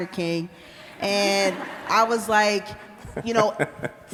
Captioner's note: laughter